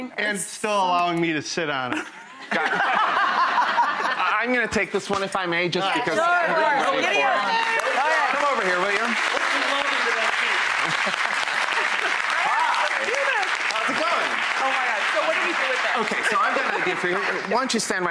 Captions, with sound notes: And still allowing me to sit on it. (laughter) I'm gonna take this one if I may, just because I've been waiting for it. Come over here, will you? (applause) How's it goin'? Oh my god. So what do we do with this? So I'm going to,